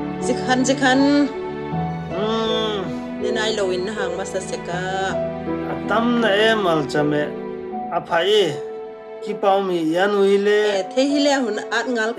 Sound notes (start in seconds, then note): 2.0 groaning